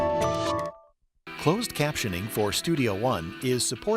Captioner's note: voiceover